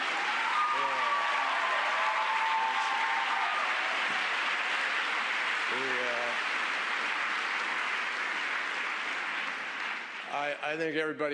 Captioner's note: laughter and applause